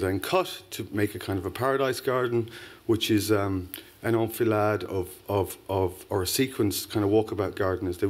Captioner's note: non-english